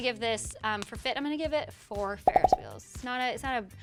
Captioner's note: popping